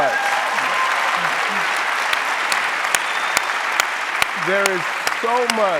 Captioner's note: audience applauding